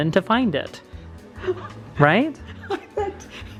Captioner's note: laughs